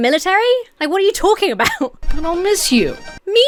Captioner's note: Emma chuckles